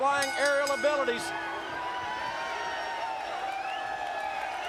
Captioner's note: bell dinging